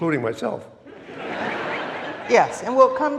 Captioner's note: audience laughing